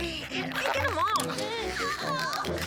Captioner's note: both groaning